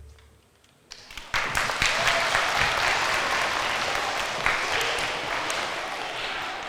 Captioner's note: applause